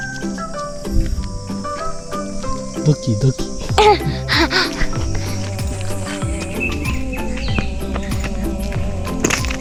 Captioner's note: heart beats